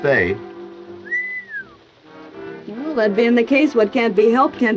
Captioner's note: whistling